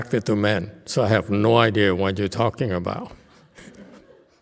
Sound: laughs

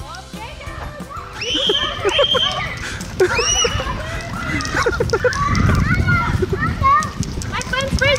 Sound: the kids and parents scream and laugh

